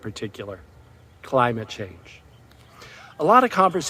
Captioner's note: crowd cheers